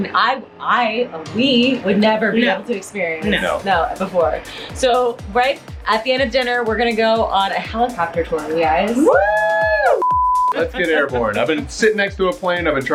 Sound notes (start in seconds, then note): 9.0 cheering